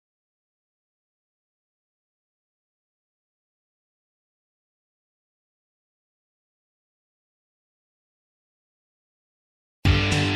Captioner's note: silence